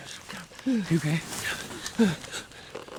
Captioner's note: panting